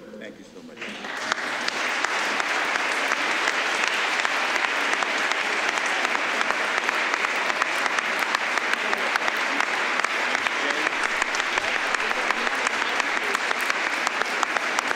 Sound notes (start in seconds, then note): 3.1 applause